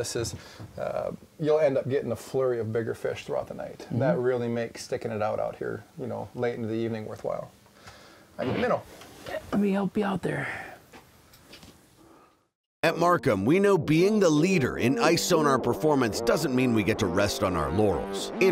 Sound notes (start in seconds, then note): 12.9 voiceover